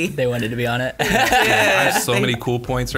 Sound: laughing

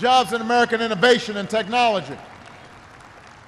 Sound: applause

